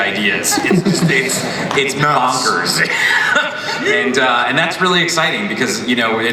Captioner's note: mumbles, laughs